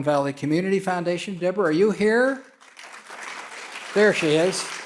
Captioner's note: audience clapping